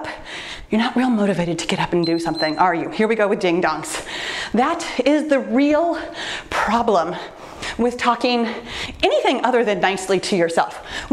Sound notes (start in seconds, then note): 2.0 timer beeps